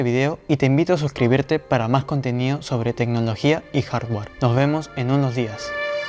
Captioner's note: spanish and english